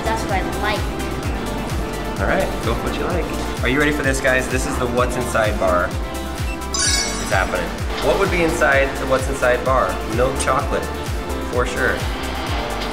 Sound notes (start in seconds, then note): 6.2 metallic dinging